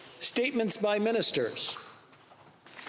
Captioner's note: speaking french